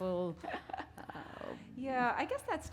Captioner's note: chuckle